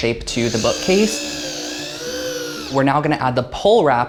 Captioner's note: drilling machine grunting